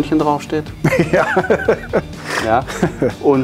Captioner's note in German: lachen